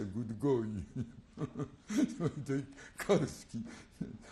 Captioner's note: laugh